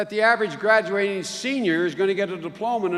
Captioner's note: none